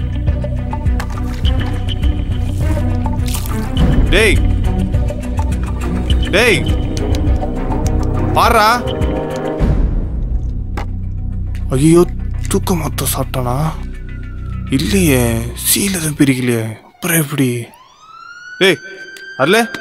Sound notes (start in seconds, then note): 1.7 water Sprayed; 17.7 ambulance Siren sound outside